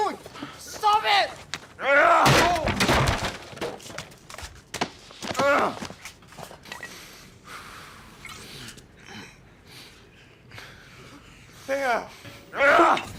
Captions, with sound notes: Stop it! [smashes altar] Laer!